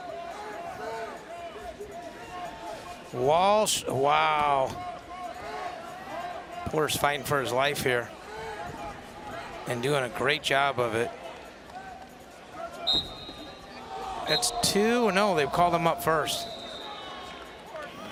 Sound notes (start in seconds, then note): 12.8 whistle blows